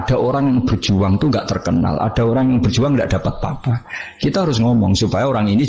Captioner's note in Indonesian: tertawa